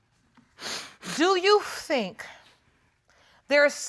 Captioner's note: sniffles